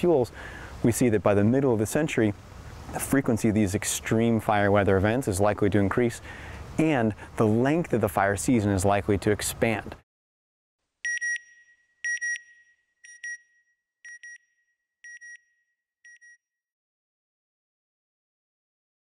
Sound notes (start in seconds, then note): 12.0 beep beep